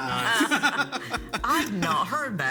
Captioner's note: people laugh